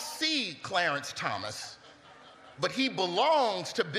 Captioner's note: laughter